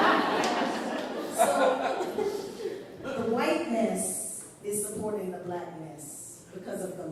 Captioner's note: laughter